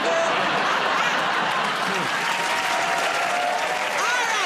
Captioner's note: cheers and applause